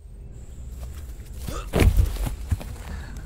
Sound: grunt/THUD

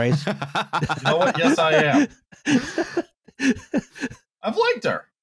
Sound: laughter

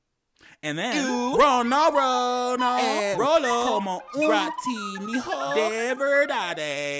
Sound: man speaking gibberish

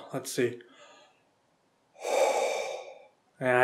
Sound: breathes deeply

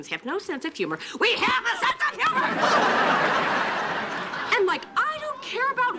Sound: audience laughing

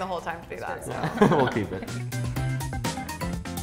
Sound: laughs; funky music

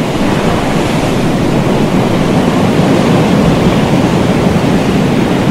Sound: low storm rumble

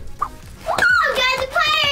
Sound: shrieks

